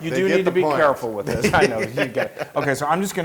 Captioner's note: laugh